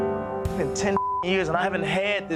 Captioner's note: beep